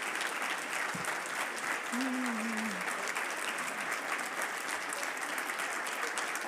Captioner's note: audience continues applauding